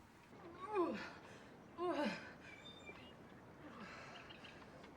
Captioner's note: Jen groans and pants